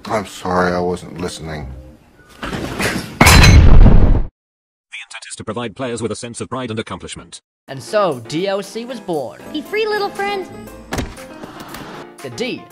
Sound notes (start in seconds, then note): 3.2 explosion